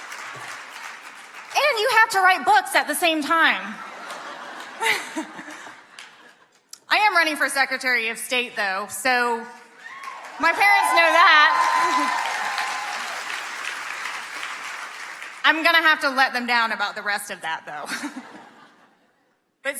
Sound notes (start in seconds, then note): 0.0 audience clapping; 3.7 audience laughing; 11.8 audience clapping; 19.1 laughs